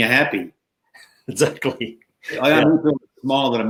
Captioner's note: chuckling